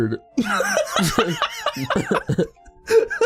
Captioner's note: laughs